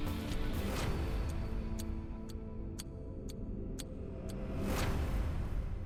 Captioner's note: intense music; clock ticks